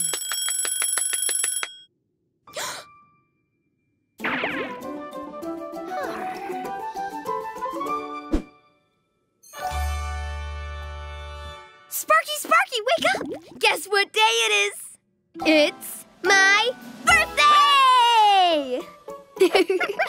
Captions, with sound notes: (alarm ringing) (Finny gasps) Sparky, Sparky, wake up! Guess what day it is? It's my birthday!